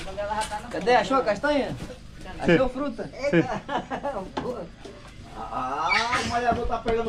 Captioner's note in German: gelächter